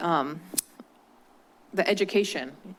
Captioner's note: clicks tongue